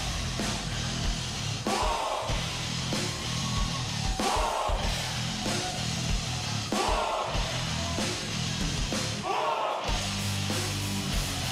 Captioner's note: fans chanting